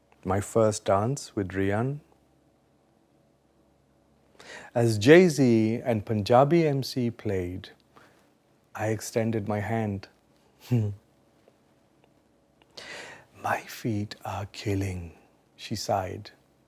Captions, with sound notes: My first dance with Rhian, as Jay-Z and Punjabi MC played, I extended my hand. (chuckling) "My feet are killing," she sighed.